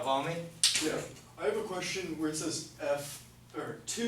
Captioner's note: voiceover